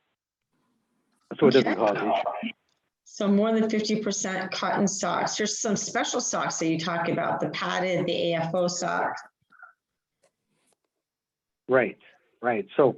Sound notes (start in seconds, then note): 1.3 microphone distortion